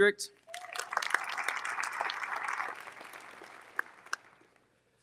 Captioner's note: audience applauding